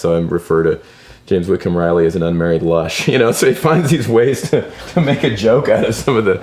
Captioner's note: laughs